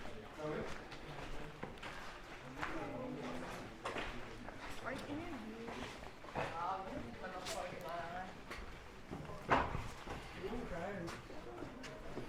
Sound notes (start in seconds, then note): 0.0 background chatter